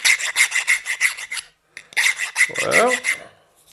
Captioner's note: filing noises